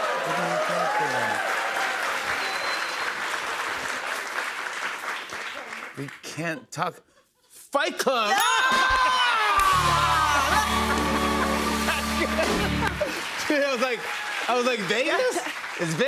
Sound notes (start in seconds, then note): 2.1 applause; 8.3 cheers and applause